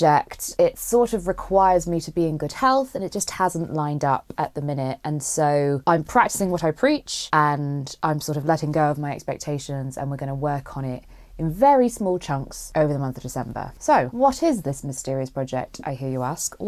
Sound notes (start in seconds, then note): none